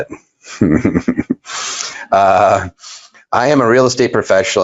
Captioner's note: laughs